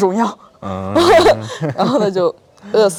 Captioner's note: laughs